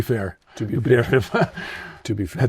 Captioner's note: chuckles